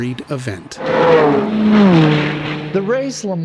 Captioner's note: engines revving